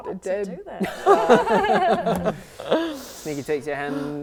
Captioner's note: laughing